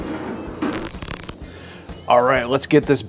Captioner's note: static crackling